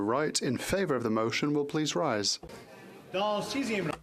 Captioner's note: speaking French